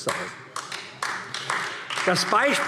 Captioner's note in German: Beifall AfD